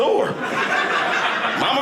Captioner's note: audience laughing